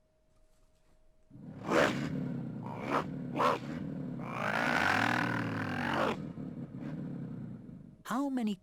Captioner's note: car vrooming sound